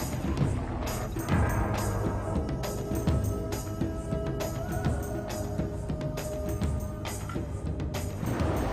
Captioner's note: OOoooooOOoooooOoOooooOh!; drums But Like Too But Windy